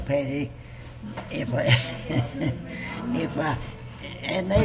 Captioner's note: laughs